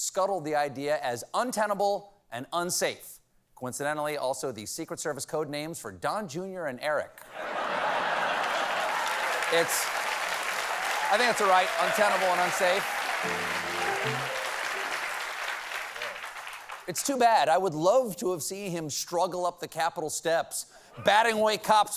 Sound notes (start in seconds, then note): 6.6 applause; 7.3 laughter